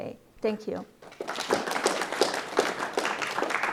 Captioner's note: audience clap